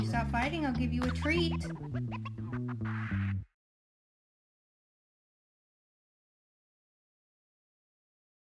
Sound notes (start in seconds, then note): 0.8 record scratching